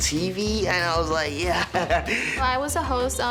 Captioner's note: laughs